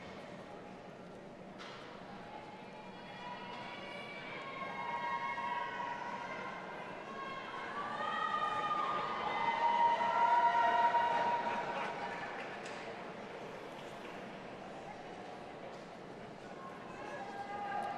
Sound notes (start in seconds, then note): 3.5 audience cheering